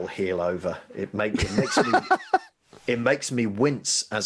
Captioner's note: laughing